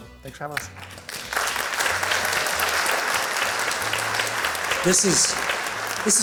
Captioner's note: applause